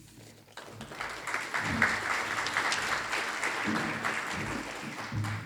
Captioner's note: audience applauding